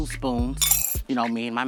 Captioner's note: spoons clanking